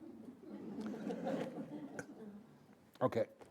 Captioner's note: audience laughing